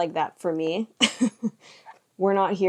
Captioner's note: chuckles